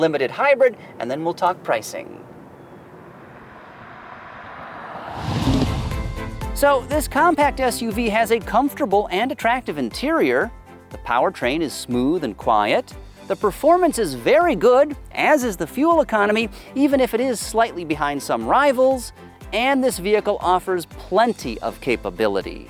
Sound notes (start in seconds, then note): 2.9 car revving; 5.5 upbeat music